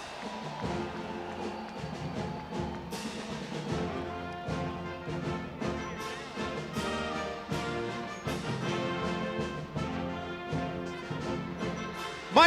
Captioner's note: crowd cheering